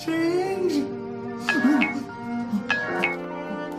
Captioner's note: phone message sound